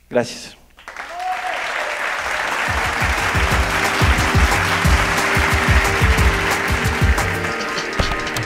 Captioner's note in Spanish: Aplausos